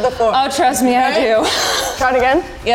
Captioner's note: laughs